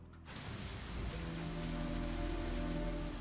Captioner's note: raining